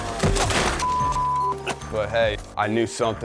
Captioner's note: dirt bike thuds; beep